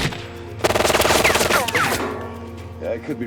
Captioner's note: guns firing